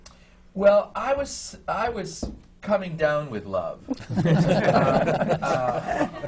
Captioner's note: laughter